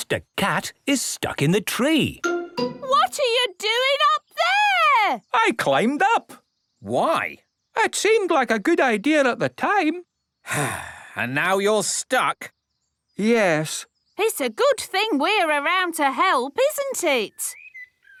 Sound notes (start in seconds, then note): 10.4 sigh